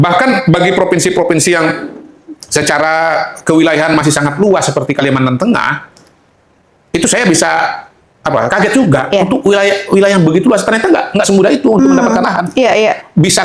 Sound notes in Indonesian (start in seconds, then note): 10.7 tertawa